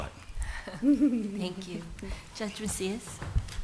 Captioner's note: laughter